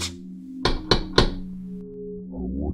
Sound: knocking

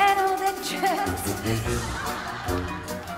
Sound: giggling

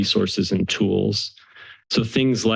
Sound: inhales

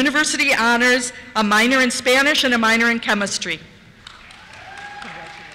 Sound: cheers

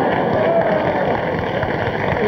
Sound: audience "oohs" and laughs; audience cheers and claps

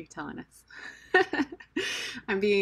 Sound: laugh

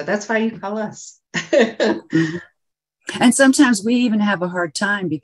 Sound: chuckles

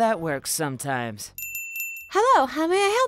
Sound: bell jingles

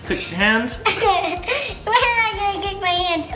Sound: chuckling

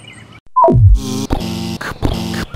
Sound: beep; buzz; pounding footsteps

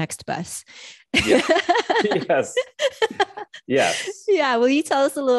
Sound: laughs

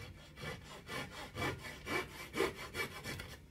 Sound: saw rasping

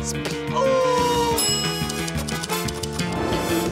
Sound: bell dings

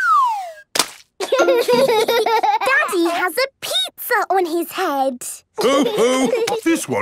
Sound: Peppa gasps; splat

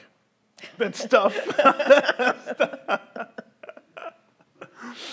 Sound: laughs

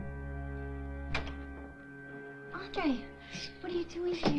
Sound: door clicks

